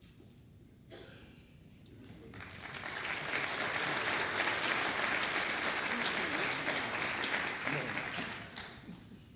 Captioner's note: applause